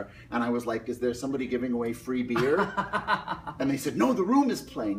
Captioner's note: Tommy laughs